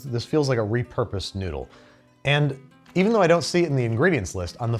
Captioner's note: none